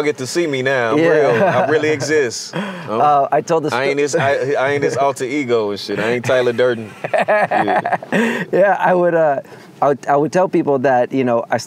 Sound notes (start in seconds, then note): 1.0 laughs; 6.4 laughs